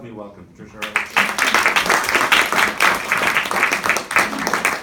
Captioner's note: group claps